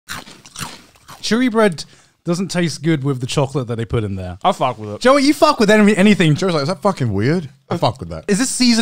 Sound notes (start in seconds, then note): 0.1 chewing